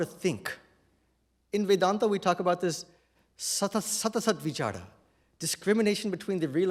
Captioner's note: non-english